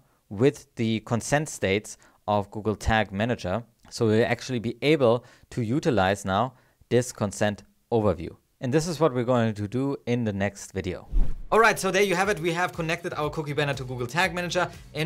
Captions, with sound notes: with the consent states of Google Tag Manager. So we'll actually be able to utilize now, this Consent Overview. And this is what we're going to do in the next video. (graphic whooshes) All right, so there you have it, (mellow music) we have connected our cookie banner to Google Tag Manager